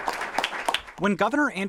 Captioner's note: applause